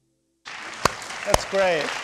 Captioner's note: students applauding